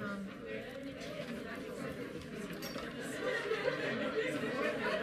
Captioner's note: audience chattering